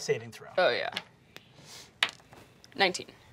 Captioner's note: dice clacking